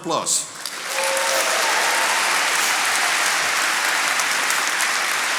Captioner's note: attendees applauding